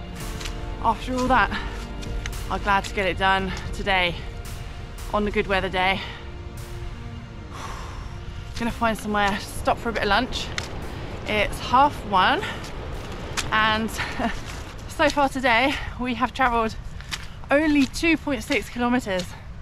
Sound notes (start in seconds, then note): 7.5 exhales because knackered